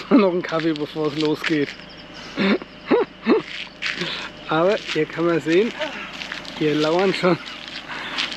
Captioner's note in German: räuspern